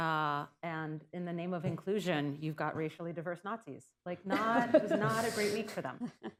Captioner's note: laughter